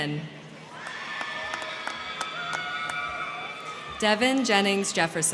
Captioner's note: crowd cheering; crowd clapping